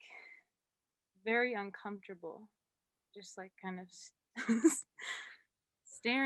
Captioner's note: laughs